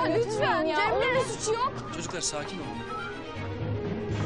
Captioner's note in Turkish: Bağırışmalar